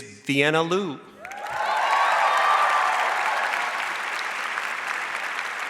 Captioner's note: audience cheers and applauds